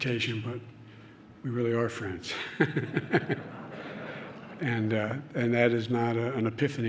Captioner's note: laughter